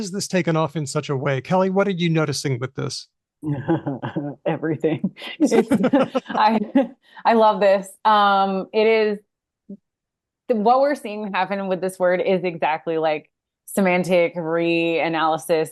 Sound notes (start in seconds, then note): 5.2 laughs